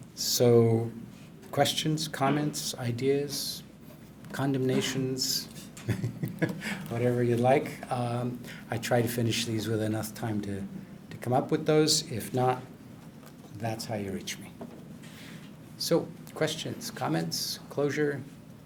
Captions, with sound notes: So, questions, comments, ideas? Condemnations? (laughs) Whatever you'd like. I tried to finish these with enough time to come up with those. If not, that's how you reach me. So, questions, comments, closure?